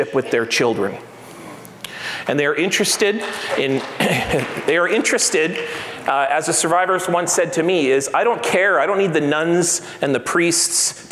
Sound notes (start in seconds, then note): 3.0 applauds